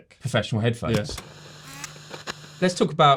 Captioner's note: projector zooming